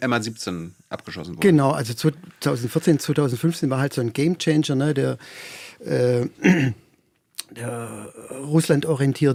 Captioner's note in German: räuspern